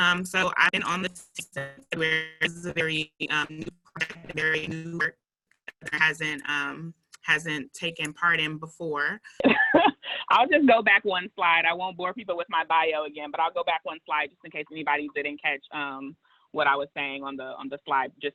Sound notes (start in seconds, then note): 9.6 laughing